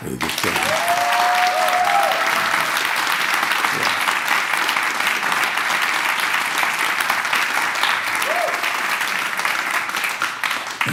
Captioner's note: clapping